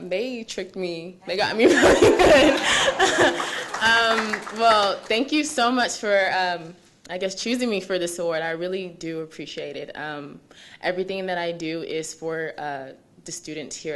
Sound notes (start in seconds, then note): 1.5 laughing; 2.2 audience applauding